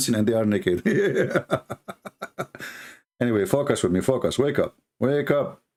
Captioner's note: Ketawa